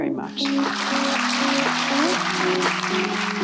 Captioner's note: applause